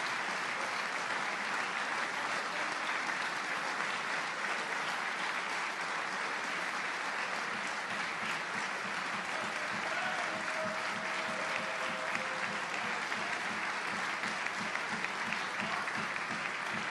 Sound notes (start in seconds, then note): 2.9 applause